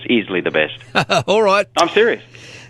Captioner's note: laughs